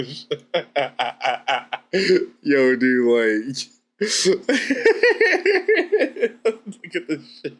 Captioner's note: laughs